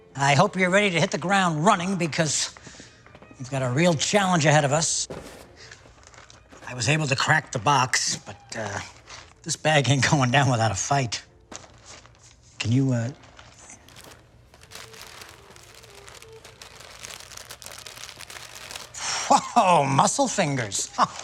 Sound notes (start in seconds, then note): 14.2 bag crackling